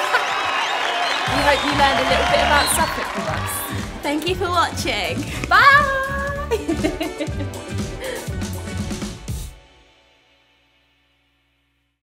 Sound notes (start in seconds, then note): 0.0 cheering; 5.7 laughs